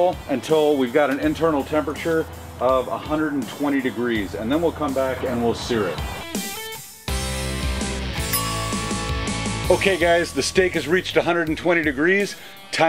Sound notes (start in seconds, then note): 6.4 upbeat music; 8.2 clock chiming